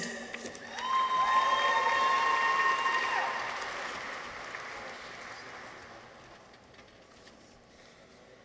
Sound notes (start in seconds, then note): 0.3 audience applauds; 0.4 people cheer